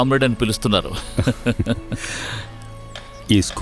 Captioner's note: laughs